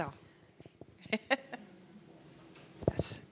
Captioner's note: laughing